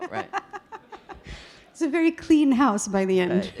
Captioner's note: audience laughing